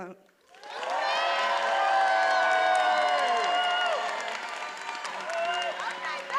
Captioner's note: attendees applauding and cheering